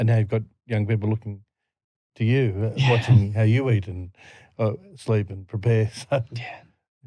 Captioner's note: laughing